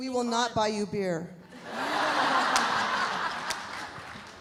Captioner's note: audience laughs